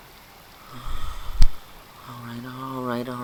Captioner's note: sighs